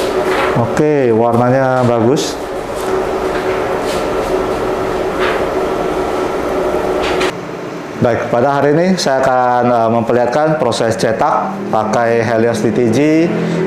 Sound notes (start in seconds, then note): 4.5 PET film sound